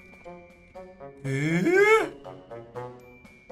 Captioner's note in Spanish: Sorprendido